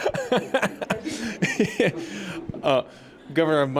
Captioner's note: laughs